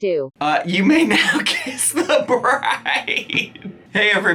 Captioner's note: laughing